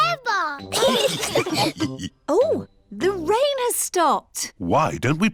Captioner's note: laughter